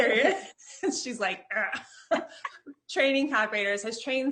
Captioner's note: laughing; grunts